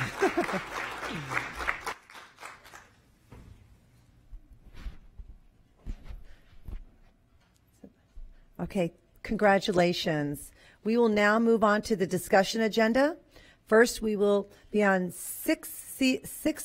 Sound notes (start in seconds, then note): 3.2 applause